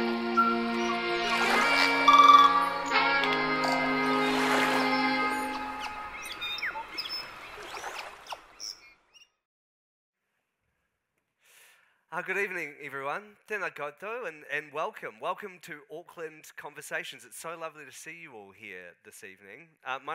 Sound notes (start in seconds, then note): 0.0 soft orchestral music; 6.0 birds chirping; 6.0 water splashing